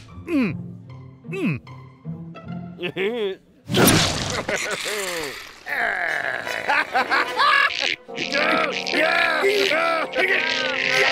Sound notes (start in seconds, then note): 0.3 grunts; 4.2 chuckles; 6.4 laughing; 7.3 grunting